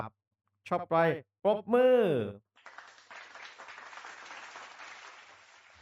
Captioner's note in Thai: ปรบมือ